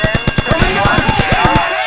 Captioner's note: gun firing